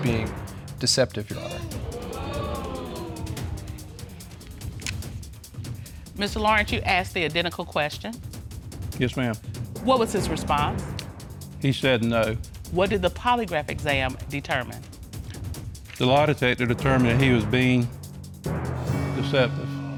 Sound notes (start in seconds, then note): 1.3 audience exclaiming